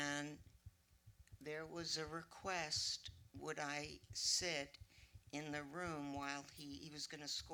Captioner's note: none